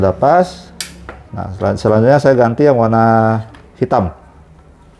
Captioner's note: damper noise